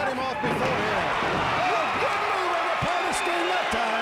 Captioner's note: crowd cheers